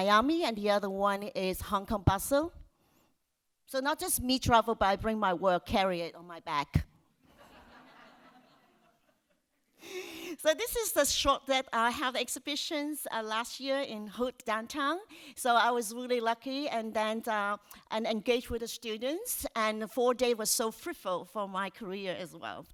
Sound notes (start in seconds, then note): 7.4 audience laughs